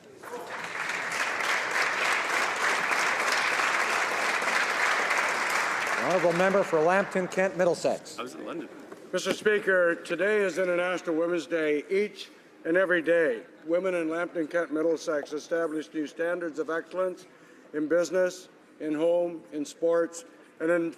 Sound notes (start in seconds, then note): 8.5 some Applause